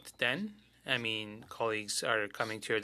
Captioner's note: speaking French